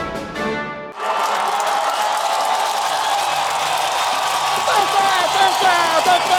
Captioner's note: applause